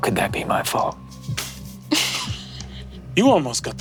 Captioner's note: players snickering